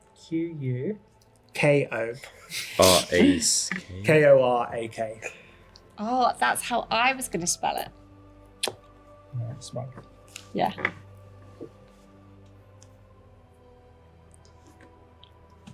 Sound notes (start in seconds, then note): 9.6 mutters